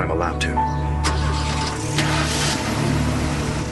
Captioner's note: обороти на двигателя